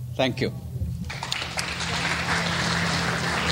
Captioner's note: clapping